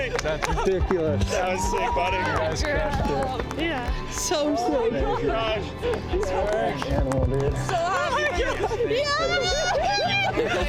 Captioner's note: crowd cheering; crowd clapping